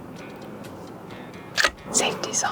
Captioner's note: rifle clicks